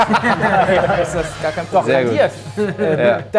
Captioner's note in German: Stimmengewirr